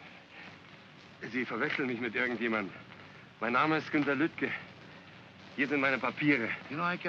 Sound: speaking in German

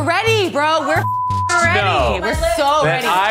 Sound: beeps

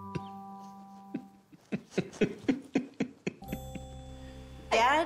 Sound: laughs

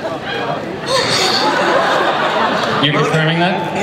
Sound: laughter

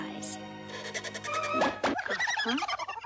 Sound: mice snicker; shirt squeezes and pops

